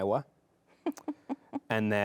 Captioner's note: laughs